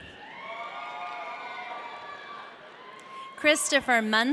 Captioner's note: audience cheering